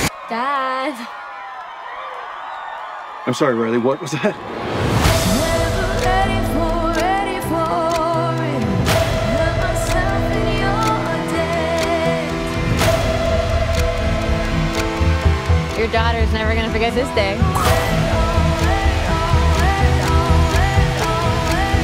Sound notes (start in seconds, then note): 0.0 cheers and applause; 17.3 imitates explosion